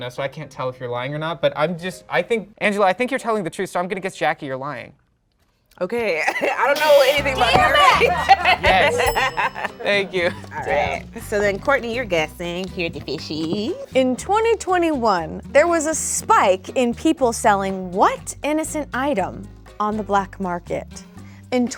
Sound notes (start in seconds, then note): 6.1 chuckles; 7.0 buzzer beeping; 9.2 laughs